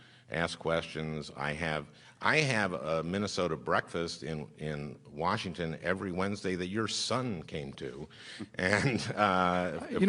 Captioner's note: laughs